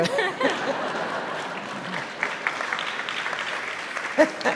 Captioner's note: audience laughing